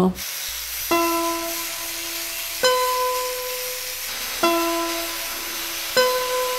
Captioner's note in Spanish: Chirrido de máquinas